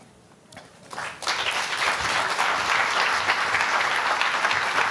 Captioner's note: audience applauding